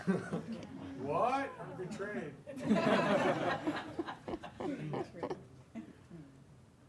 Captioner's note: audience laughing